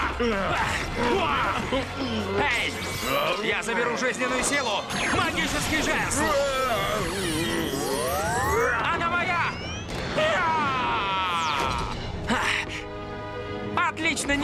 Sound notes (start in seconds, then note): 6.2 groans